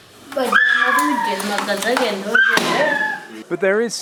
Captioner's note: child shouts